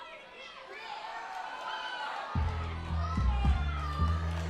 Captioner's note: crowd chatter